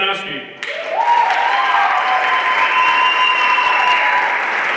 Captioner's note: everyone applauding